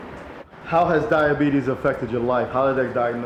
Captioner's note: voiceover